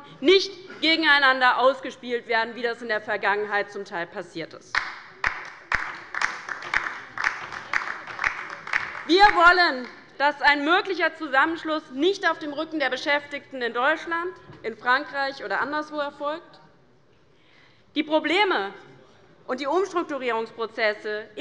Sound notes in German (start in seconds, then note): 4.7 Beifall bei der LINKEN